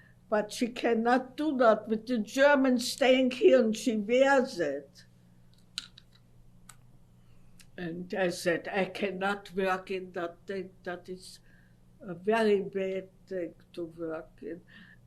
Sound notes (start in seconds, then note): 5.1 pauses for 3 seconds